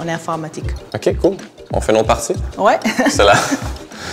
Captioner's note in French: rires